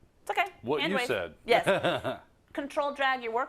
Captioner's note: laugh